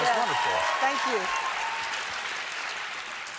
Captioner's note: applause